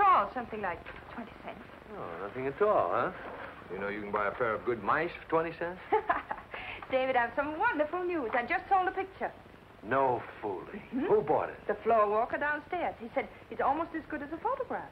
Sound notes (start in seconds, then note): 5.9 laughs